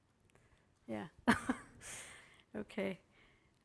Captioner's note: laughing